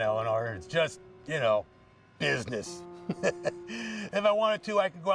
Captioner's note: laughs